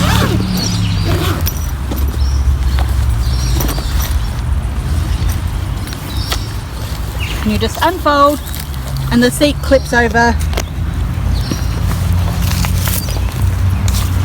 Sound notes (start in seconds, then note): 0.0 zipper scratches; 2.3 birds chirping